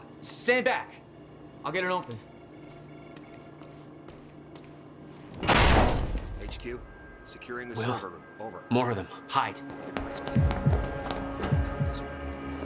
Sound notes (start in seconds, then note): 8.3 hearing the guard chatter